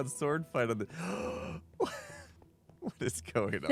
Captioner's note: gasps